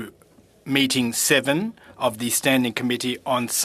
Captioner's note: speaking FRENCH